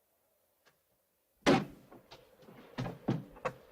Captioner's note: thump